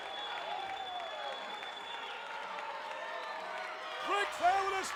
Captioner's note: applause